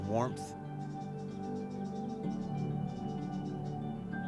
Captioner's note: birds chirping